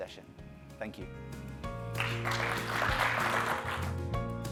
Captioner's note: concluding music; applause; upbeat music